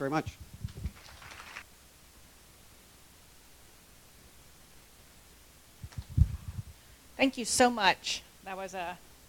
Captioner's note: applause